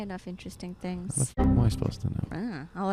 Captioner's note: windows error noise